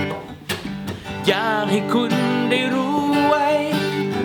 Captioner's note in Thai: ร้อง